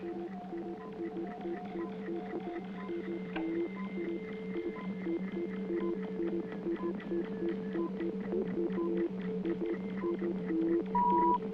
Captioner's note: beeping